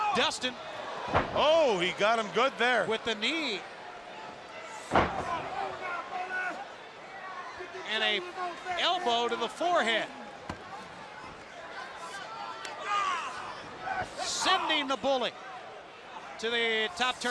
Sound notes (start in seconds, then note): 5.5 crowd chatter